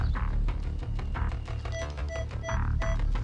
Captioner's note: beeping